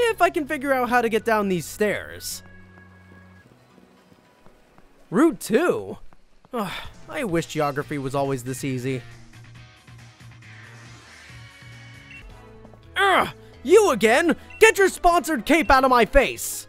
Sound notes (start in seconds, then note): 6.5 sighs; 13.1 grunts